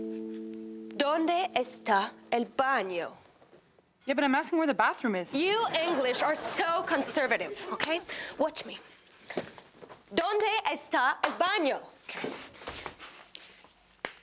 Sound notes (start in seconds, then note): 5.4 audience laughs; 14.0 claps